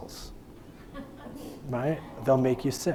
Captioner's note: audience laughing